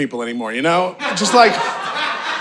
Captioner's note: audience laughing